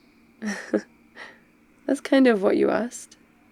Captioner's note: laughs